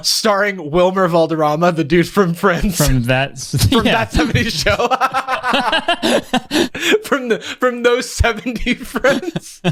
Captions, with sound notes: starring Wilmer Valderrama the dude from "Friends"? - From that... - From "That 70s Show". (pair laughs) From those 70 friends.